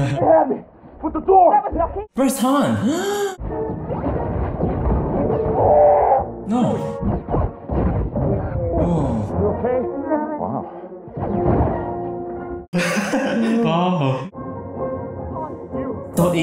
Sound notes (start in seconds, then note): 5.5 chewie roars; 8.3 chewie grunts